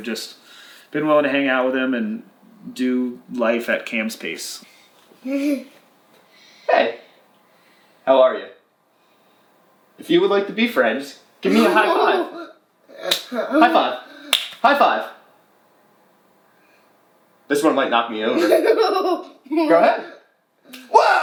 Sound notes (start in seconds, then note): 18.3 laughing